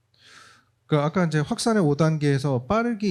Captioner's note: speaking korean